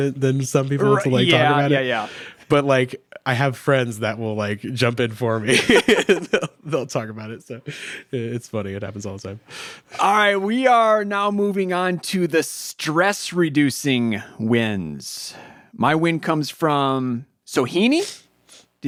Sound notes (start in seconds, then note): 5.5 both laugh